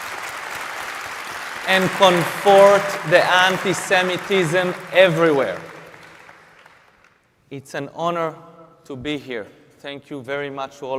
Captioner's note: applause